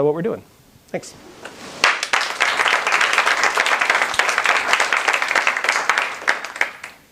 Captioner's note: applause